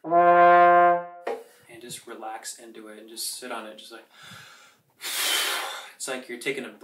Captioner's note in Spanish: gran aliento